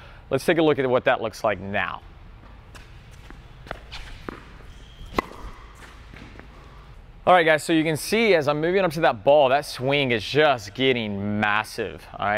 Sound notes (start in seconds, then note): 5.0 tennis ball slams